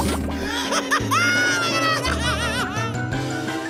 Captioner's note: laughing